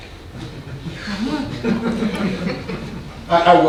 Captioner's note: audience laughing